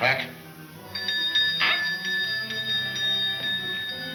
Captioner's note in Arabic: رنين الجرس